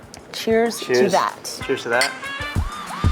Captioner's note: glasses clinking; uplifting music